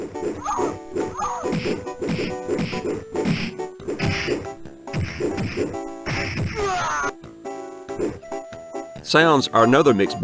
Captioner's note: game sounds